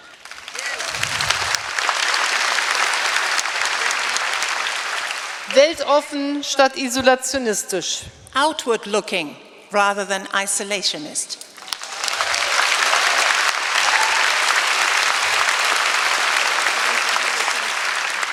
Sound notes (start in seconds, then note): 0.0 applause; 5.6 speaking in German; 11.5 applause